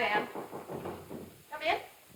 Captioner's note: knocking on door